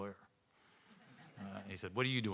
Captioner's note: audience laughing